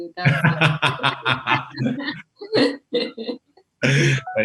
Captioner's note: laughs loudly